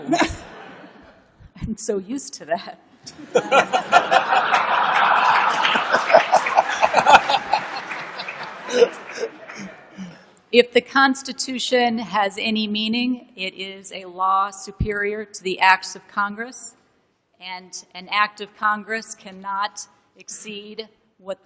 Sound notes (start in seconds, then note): 3.1 laughter